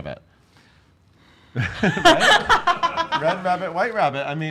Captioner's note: laughs